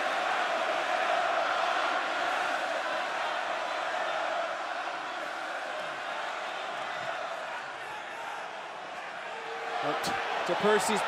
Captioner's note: crowd cheering